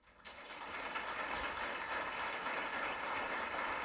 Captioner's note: applause